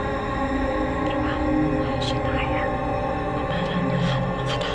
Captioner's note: Naira chanting in Hebrew